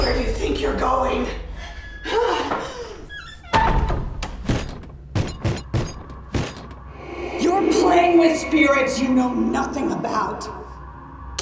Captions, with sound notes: - Where do you think you're going? (door thumps closed) (Madam Maze bangs on door) You're playing with spirits you know nothing about!